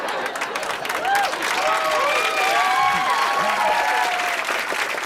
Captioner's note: cheers and applause